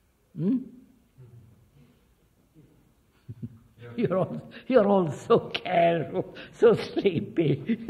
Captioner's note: laughs